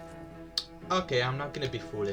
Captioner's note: lipsmack